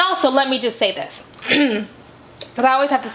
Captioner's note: clears throat